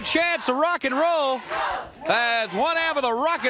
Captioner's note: crowd cheering